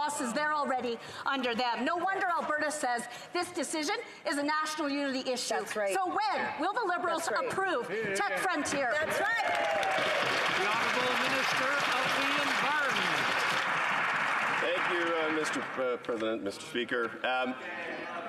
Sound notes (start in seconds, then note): 12.5 some Applause